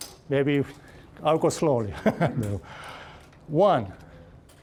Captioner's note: laughing